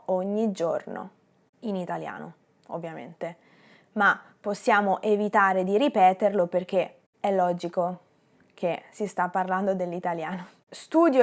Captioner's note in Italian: in italiano